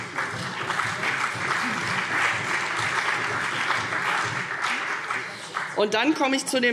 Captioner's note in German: Beifall CDU und BÜNDNIS 90/DIE GRÜNEN